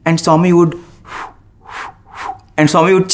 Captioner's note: blows